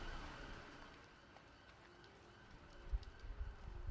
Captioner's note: distant sirens wail; wind blows